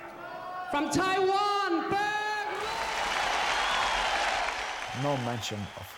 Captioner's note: cheering